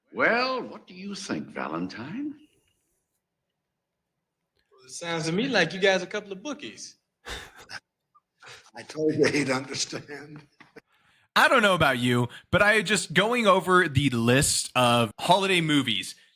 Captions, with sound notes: Well, what do you think, Valentine? Sounds to me like you guys a couple of bookies. (Laughing) I told you he'd understand. I don't know about you, but I just, going over the list of holiday movies,